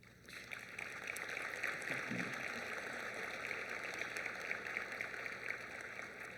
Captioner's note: applause